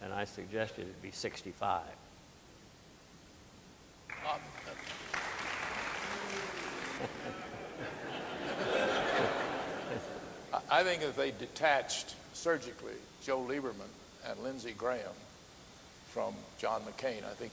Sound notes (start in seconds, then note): 4.0 audience applauding; 8.2 audience laughing